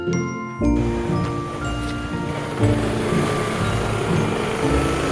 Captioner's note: background street noise